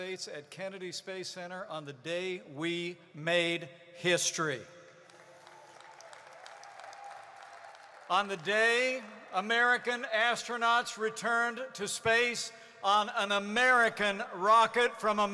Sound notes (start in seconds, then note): 5.0 applause